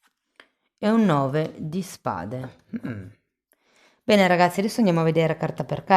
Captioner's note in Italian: schiarire la voce